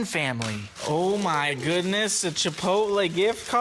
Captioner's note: in an excited Southern accent